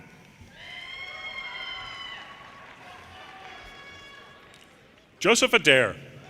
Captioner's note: audience cheers and applause